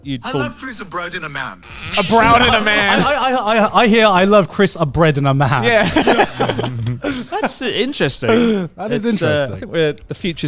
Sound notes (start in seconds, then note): 1.8 laughs; 5.6 all chuckling